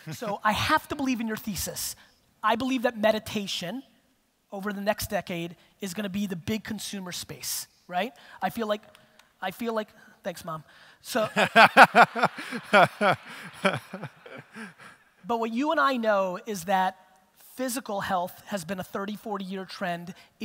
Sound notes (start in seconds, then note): 11.3 audience laughter